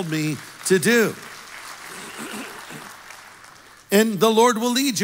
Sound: congregation applauds

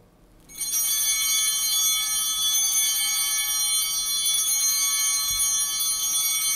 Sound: chimes ringing

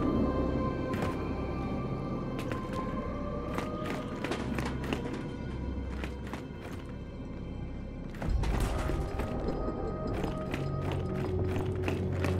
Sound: footsteps

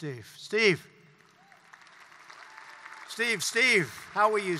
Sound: applause

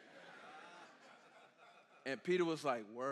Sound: congregation laughing

